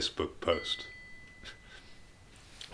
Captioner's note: ding!